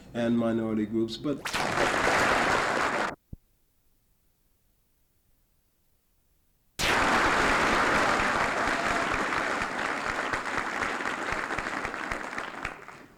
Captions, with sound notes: and minority groups, but, [Camera noise] [Applause] [No audio] [Applause]